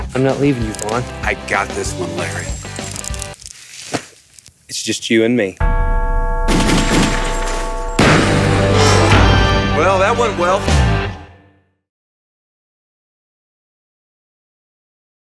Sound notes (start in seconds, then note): 3.6 hug slaps; 5.6 bell ringing; 6.5 guns shooting; 7.9 guitar strums